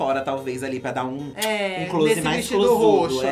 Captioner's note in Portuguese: beijo estalado